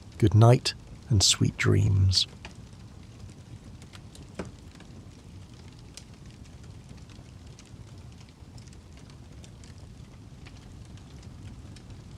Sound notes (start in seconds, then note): 4.7 ambient Campfire Sounds